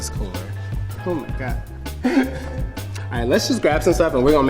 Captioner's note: laughing